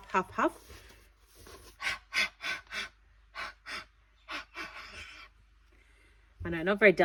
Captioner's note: breathes heavily on stamp